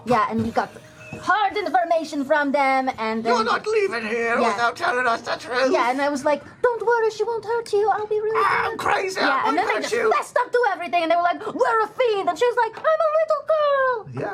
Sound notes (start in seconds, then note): 2.9 weird interrogator voice